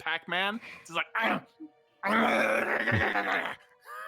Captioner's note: chomping